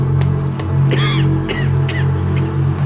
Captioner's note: coughing